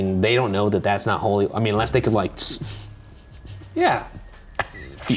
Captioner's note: chuckles